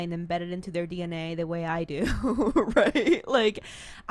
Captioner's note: laughs